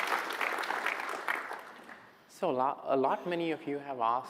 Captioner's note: applause